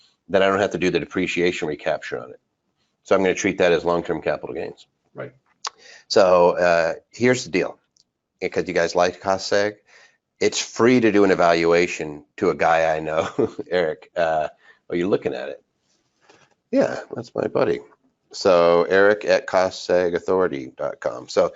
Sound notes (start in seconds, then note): 13.1 laughs